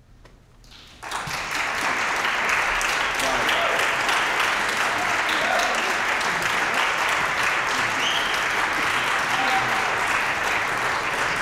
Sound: applause, cheering

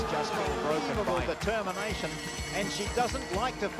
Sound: bell rings

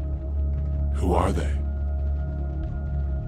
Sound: low Voice

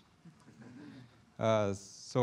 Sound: chuckling

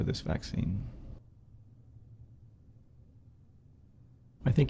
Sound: silence

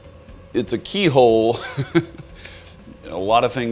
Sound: laughing

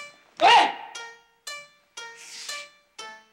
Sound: Mikio grunts

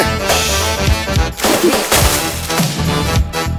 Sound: splash

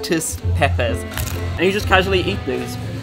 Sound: crunching

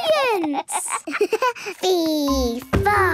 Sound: giggles

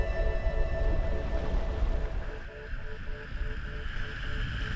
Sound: wind rumbling

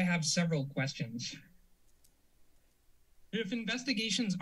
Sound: silence

